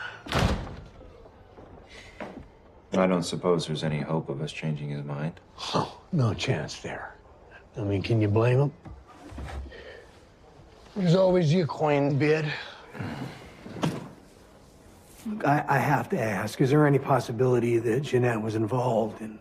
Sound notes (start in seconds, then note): 0.2 door closes